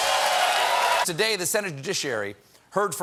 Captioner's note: cheers and applause